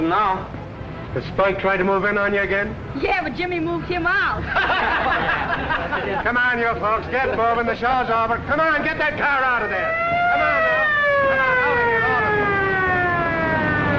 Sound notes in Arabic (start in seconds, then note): 4.4 ضحك; 9.3 صافرات الإنذار